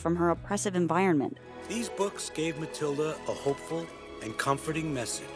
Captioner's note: voiceover